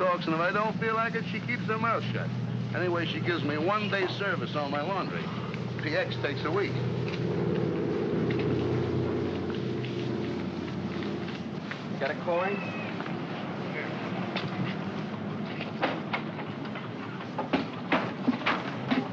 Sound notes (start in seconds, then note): 7.8 aircraft rumbles overhead; 15.6 door opens